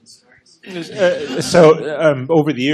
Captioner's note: laughter